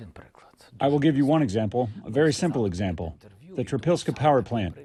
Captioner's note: through translator